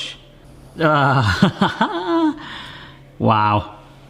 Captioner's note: chuckling